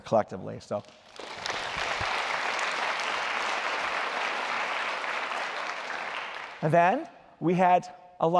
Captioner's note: applause